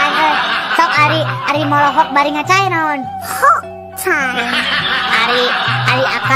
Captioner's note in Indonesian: tertawa